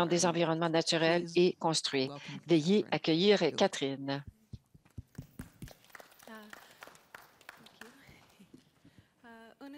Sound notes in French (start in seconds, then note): 5.0 applaudissements